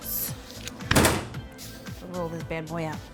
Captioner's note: loud smack